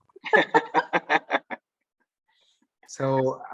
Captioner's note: laughing